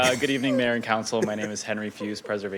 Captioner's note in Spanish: risas